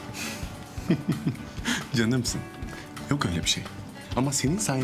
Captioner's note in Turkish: Ateş gülüyor